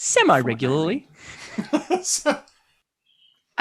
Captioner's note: laughter